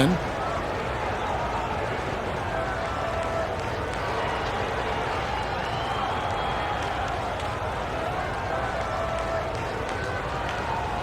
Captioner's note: crowd noise